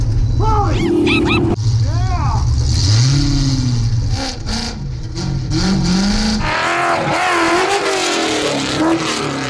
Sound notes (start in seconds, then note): 1.2 yelling; 6.8 engine roaring